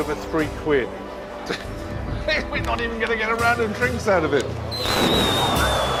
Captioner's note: chuckles